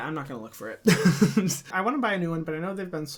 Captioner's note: laughs